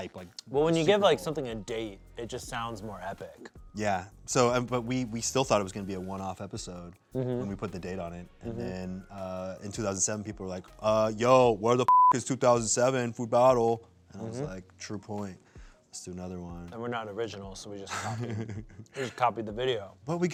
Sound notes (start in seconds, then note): 11.8 beep